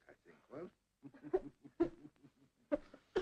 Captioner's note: Mary sobs; Sir Humphrey laughs